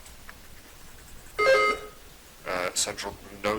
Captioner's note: buzzer dings